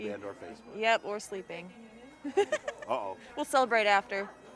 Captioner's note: laughing